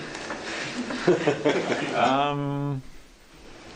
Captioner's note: laughter